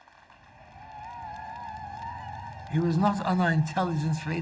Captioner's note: crowd cheering